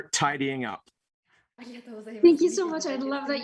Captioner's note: Marie speaking foreign language